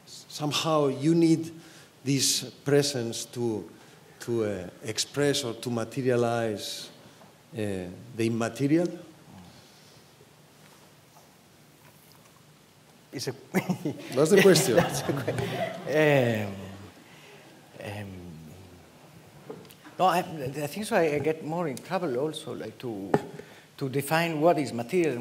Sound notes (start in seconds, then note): 13.6 laughs